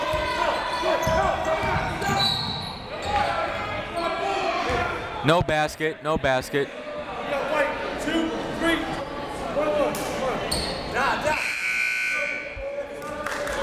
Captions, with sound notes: (whistle) No basket, no basket. (buzzer)